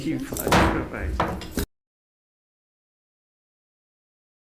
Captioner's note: gavel hit